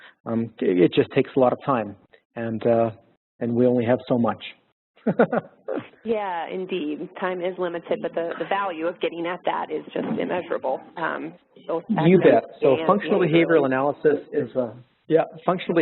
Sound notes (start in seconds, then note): 5.0 laughter